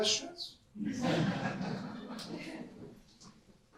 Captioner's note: audience laugh